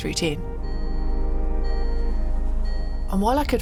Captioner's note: car dinging